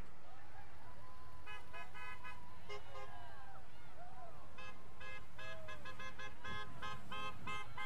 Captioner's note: vehicles honking; people cheering